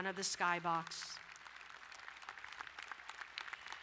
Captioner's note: applauding